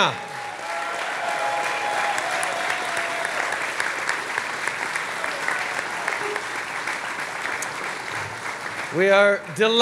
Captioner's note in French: Acclamations et applaudissements